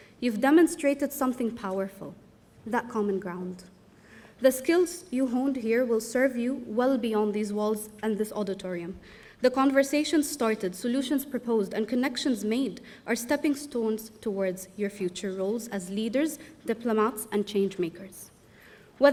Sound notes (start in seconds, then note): none